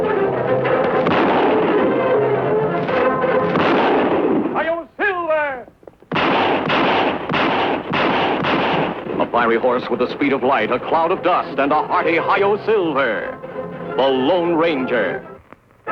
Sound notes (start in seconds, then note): 0.6 gunshots fires; 3.4 gunshot fires; 6.0 gunshots firing